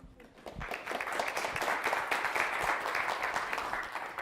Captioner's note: clapping